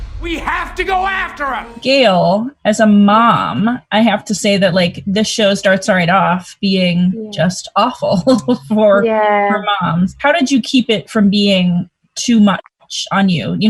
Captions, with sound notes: - We have to go after her - Gayle, as a mom, I have to say that like the show starts right off being just awful[Laughs] for moms. How did you keep it from being too much on you?